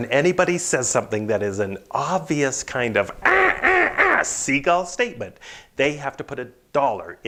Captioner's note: squawking